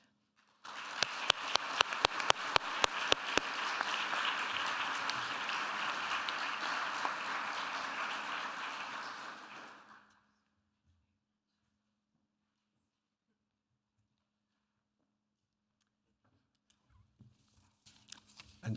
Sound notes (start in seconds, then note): 0.6 audience applauding